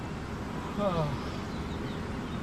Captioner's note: heavy sighing